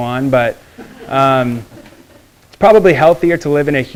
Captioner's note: students laughing